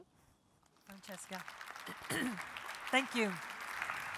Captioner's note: applause